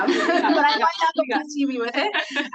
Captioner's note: everybody laughs